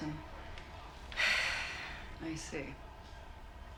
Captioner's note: sighs